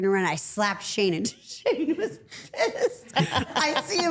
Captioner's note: everyone laughs